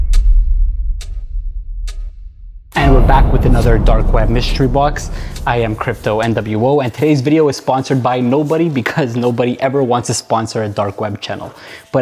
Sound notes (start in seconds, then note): 0.9 clock ticks